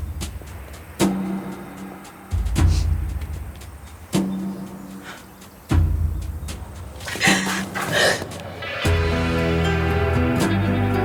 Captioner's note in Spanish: Sollozos